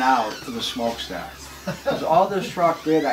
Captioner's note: laughs